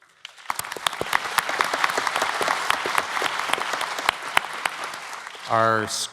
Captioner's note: applause